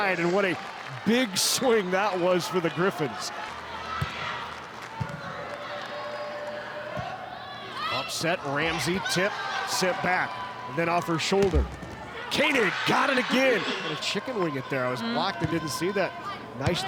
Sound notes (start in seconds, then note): 4.2 ball thumping; 5.2 players shouting indistinctly